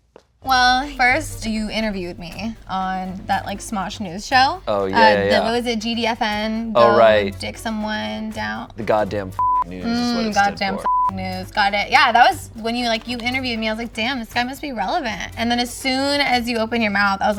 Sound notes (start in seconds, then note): 10.6 beep